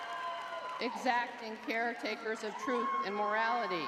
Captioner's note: crowd cheering